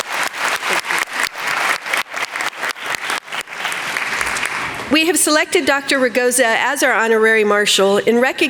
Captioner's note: applause